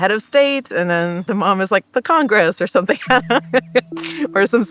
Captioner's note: laughs